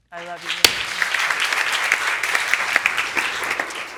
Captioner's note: audience clapping